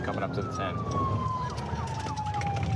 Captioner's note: sirens